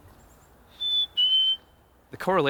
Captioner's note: whistling bird calls